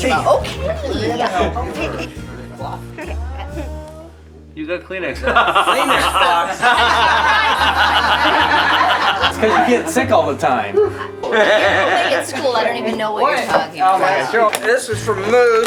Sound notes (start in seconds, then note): 6.8 laughing